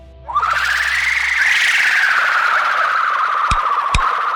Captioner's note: Loud bahro screech; Stunner charging sounds